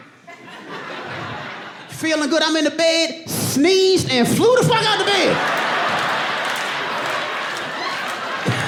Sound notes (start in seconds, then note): 0.4 audience laughing and applauding; 5.8 laughs